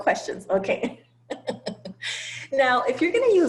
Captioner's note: laugh